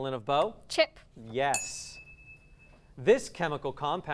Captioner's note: ding